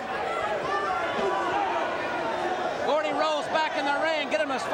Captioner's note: crowd chatter